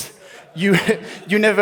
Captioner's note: laughs